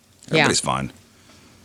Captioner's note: none